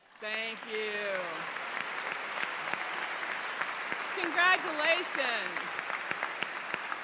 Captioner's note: applause